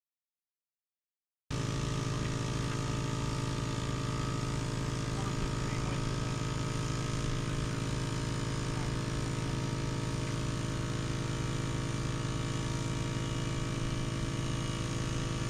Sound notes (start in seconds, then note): 5.8 trimmer buzzing